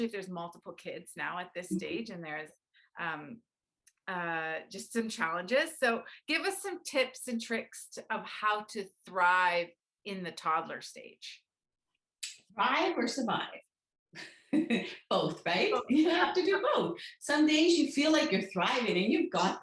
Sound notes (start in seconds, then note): 14.7 laughs